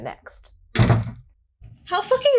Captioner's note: door slams shut